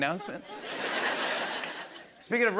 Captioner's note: laughter